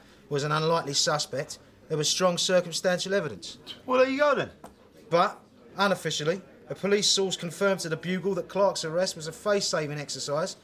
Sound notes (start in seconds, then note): none